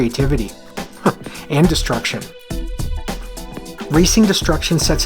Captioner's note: chuckles